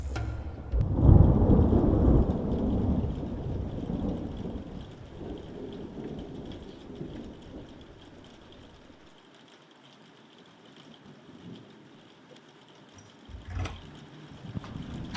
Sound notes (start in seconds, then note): 1.1 thunder rumbles; 6.7 rain; 13.3 door opens